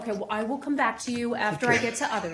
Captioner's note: laughter